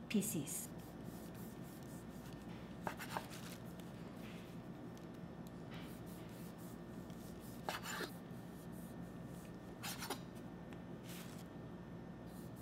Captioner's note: cutting sounds